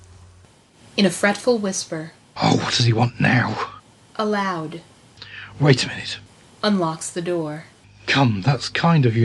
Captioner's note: in a fretful whisper